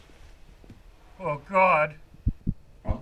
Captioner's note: heart beats